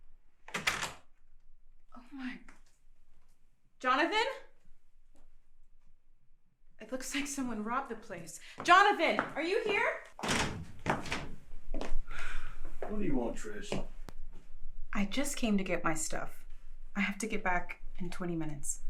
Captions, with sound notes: (door slamming) - Oh my. Jonathan? It looks like someone robbed the place. Jonathan, are you here? (footsteps tapping) - What do you want, Trish? - I just came to get my stuff. I have to get back in 20 minutes.